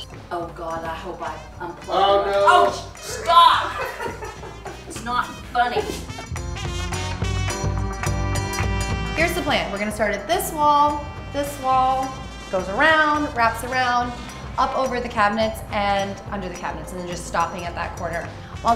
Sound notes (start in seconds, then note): 3.0 mom exclaiming; 3.7 husband laughing